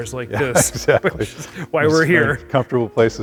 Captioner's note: laughs